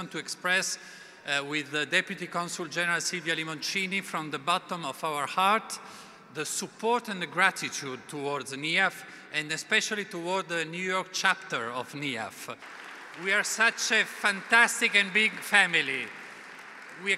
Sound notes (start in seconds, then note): 12.5 applause